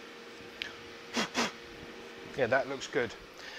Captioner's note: blows